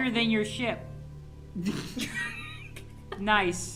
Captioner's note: laughing